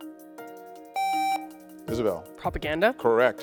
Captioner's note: contestant beeping